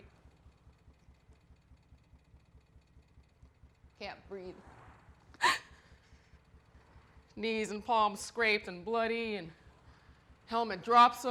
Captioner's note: gasps